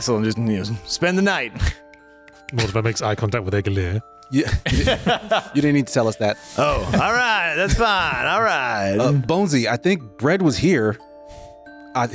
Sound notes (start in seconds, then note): 4.4 laughing